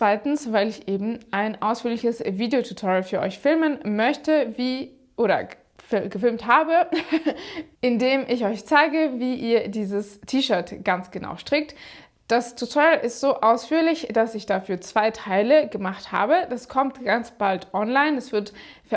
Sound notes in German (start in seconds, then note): 6.9 gelächter